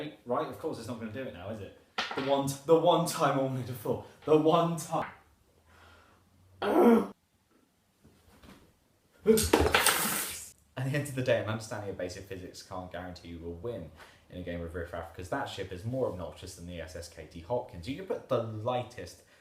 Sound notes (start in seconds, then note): 6.6 frustrated groan